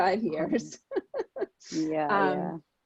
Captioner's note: laughing